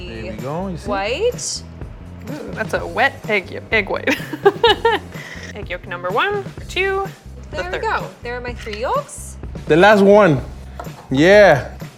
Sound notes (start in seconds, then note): 4.0 laughing